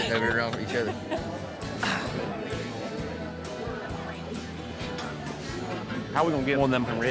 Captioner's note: people chattering